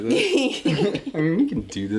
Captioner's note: laughing